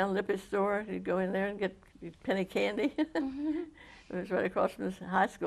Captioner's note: laughs